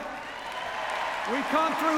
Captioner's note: cheers, applause